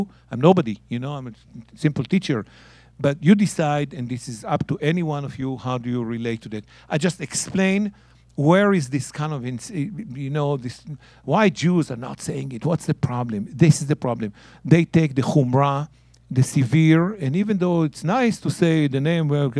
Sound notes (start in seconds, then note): 15.9 speaking in Hebrew